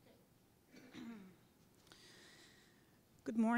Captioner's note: cough